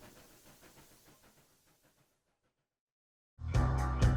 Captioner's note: training chugging away; theme music